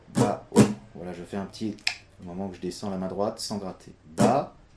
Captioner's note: clic